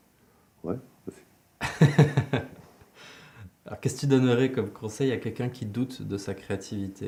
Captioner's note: laughs